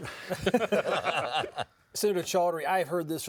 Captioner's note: laughing